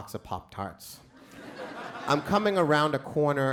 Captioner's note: crowd laughs